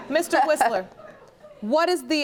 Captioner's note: chuckles